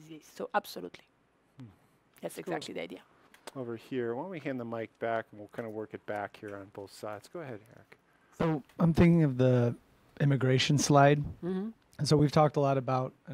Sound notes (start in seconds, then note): none